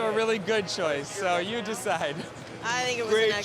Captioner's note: laughter